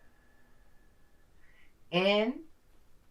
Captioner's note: exhales